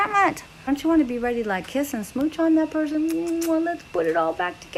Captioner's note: kissing sound